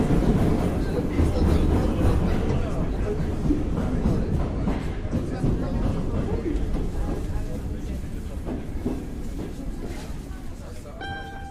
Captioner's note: rhythmic sounds of train pulling into station; chimes arpeggio played on mandolin